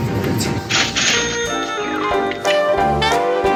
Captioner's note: ch-ching!